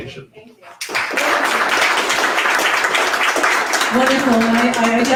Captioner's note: audience applauds